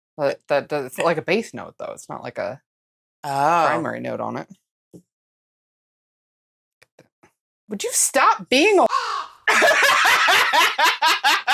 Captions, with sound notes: But that like a base note, though, it's not like a, primary note on it. Oooh. Would you stop being a [CAW]?